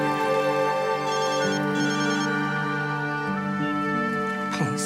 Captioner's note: phone rings